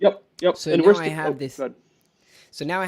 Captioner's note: murmurs